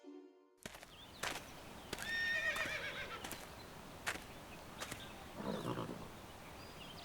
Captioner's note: birds chirping; horse neighing